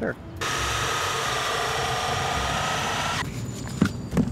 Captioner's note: saw grinding